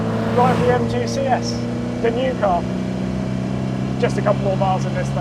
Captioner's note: vehicle revs